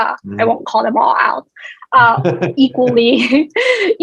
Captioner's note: laughs